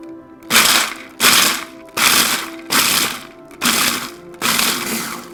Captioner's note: food processor whirring